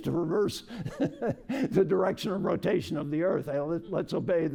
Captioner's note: laughter